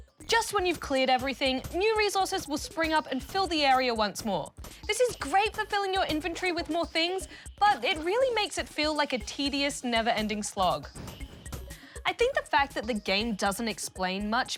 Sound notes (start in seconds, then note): none